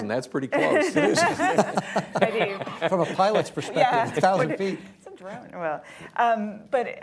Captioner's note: laughter